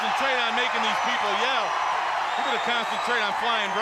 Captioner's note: crowd cheering